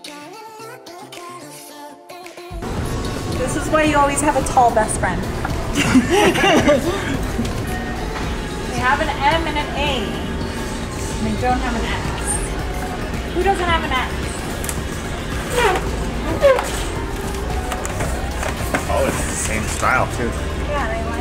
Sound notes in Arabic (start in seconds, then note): 0.1 موسيقى مبهجة; 5.7 كلاهما يضحك